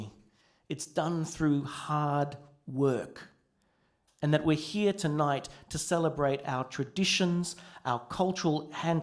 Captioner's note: none